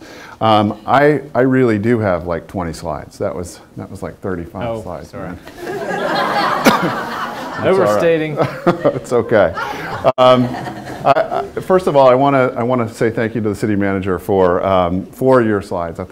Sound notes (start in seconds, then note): 5.5 laughter